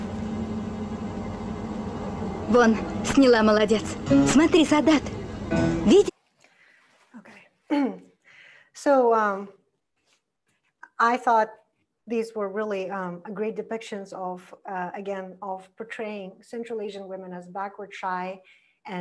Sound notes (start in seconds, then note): 2.7 foreign language